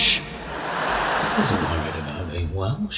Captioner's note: audience laughs